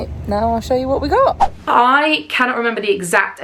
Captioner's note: screen whooshes